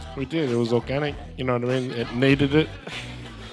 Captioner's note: audience giggles